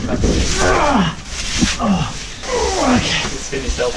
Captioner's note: grunting